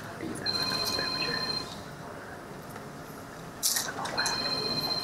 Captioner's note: cell phone ringing